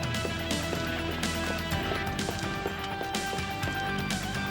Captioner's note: shoes clacking